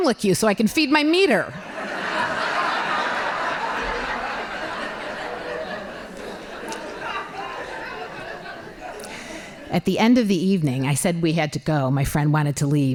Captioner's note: laughing